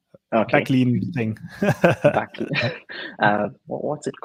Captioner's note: laughs